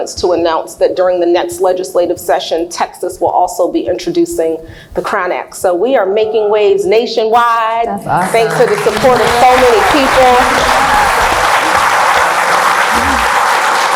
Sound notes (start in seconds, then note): 12.2 cheers; 12.6 applauds